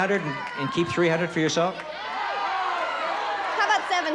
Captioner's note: crowd shouting